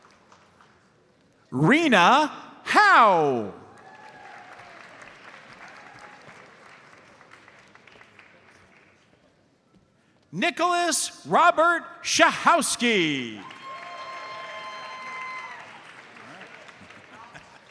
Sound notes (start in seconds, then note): 3.6 audience applauds; 12.8 audience cheers and applauds